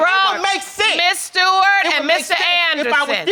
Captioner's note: yells